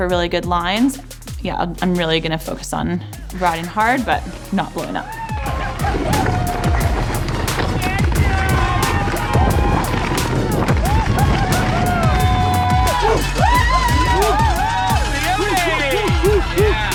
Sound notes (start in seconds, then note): 5.5 air whooshing; 5.5 spectators cheering